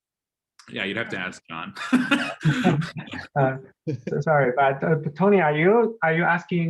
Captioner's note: laughter